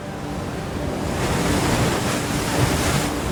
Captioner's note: waves crashing